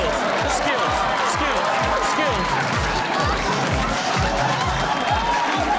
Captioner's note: audience cheering